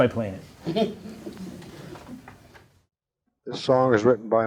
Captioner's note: laughing